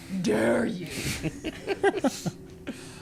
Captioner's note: laughing